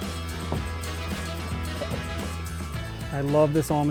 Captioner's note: tote thumping